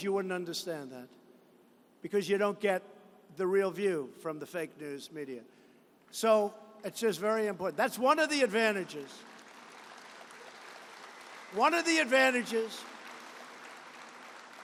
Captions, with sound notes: you would understand that because you don't get the real view from the fake news media. So, this is very important --that's one of the advantages -- (applause) One of the advantages